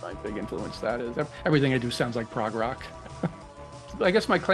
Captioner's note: chuckles